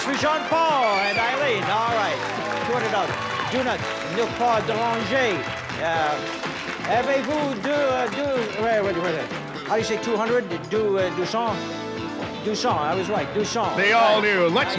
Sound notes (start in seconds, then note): 2.5 cheering and applause; 7.4 speaks French